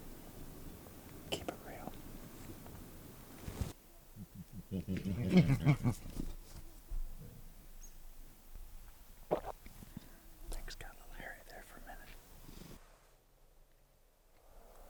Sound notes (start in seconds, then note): 4.2 bears grunting; 9.3 swallowing